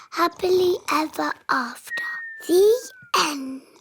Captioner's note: snoring